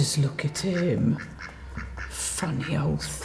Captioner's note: duck quacking